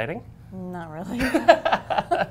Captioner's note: laughter